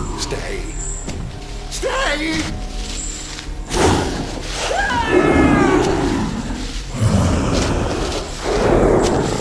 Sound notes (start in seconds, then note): 3.7 chukwalla roars and colonel screams